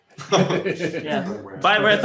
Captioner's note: laughing